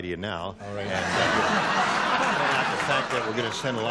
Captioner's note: laughter